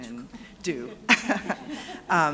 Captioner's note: laughter